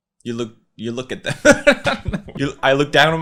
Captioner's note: laughing